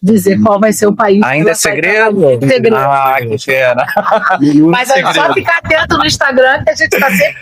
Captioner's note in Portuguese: risadas